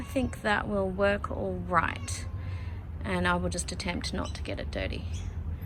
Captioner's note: cat meows; cat meows